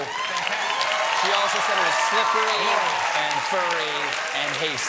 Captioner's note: cheers and applause